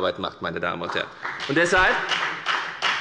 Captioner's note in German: Beifall bei der FDP